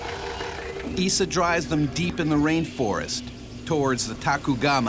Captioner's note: voiceover